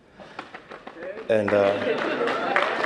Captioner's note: applause